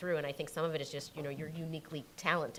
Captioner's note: none